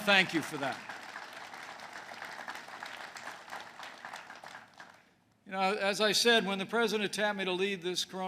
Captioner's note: applause